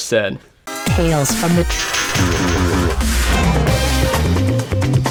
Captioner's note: distorted Female Voice; upbeat music